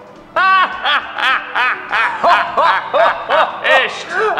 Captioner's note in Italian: risate false